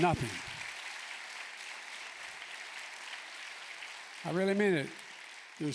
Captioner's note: applause